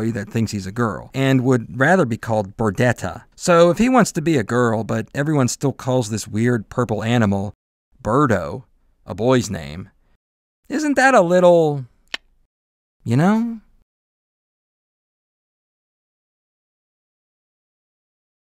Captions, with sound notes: that thinks he’s a girl” and “would rather be called Birdetta” So if he wants to be a girl but everyone still calls this weird purple animal as Birdo, a boy’s name, isn’t that a little…*click* you know…..